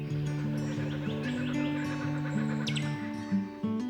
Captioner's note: kookaburra calling